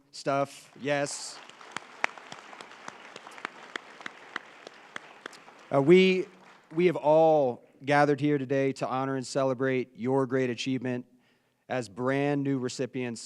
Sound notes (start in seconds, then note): 4.8 applause